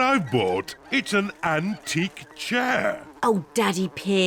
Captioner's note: oinks; flies buzzing